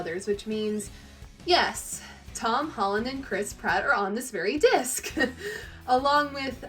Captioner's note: laughs